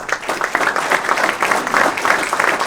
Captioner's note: applause